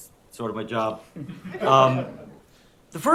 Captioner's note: laughter